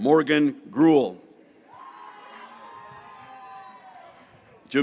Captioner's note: graduates cheering